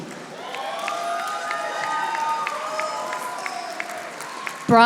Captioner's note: audience applauding